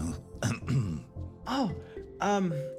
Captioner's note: clears Throat